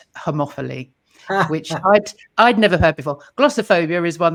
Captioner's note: laughing